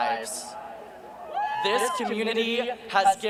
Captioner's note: cheering